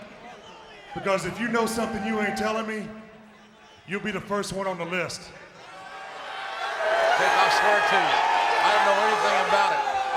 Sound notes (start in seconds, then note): 5.6 crowd cheering